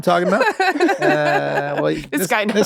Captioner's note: laughs